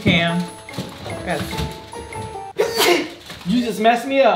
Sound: sneezes

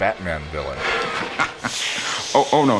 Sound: chuckle

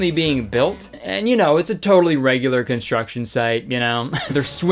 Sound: laughs

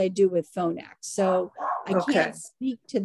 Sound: dog barking in background

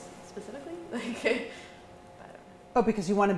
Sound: chuckles

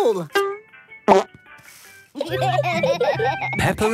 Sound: laughter

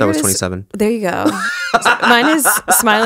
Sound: laughs

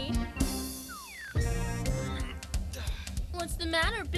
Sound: slide whistle; annoyed grunt

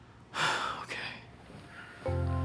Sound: sighs

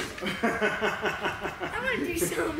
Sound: laughs

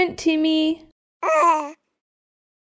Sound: baby noise

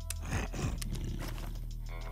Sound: grunts

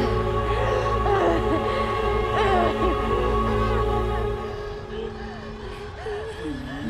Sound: dark foreboding music; Brigit grunting

